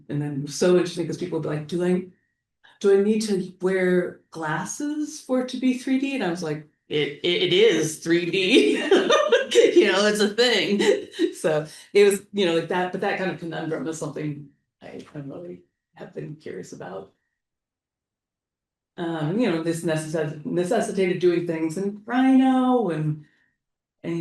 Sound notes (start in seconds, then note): 8.6 laughs